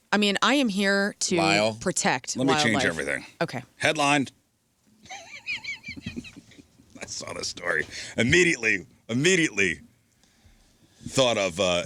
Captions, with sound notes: I mean, I am here to protect wildlife. Let me change everything. Okay. Headlined. [laughter] That's not a story. Immediately, immediately thought of